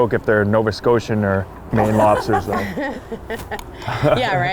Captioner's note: laugh